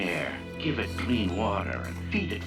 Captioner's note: none